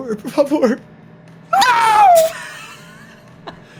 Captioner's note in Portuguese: risadas